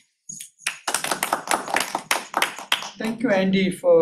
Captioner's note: applause